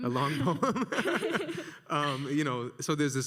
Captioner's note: laughs